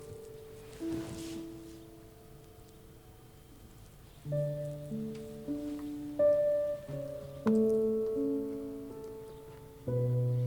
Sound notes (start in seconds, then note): 2.4 birds chirping; 4.2 sentimental music